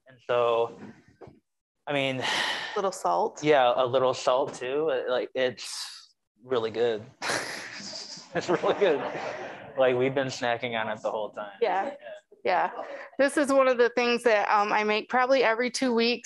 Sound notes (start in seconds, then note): 7.2 laughing; 7.7 audience laughing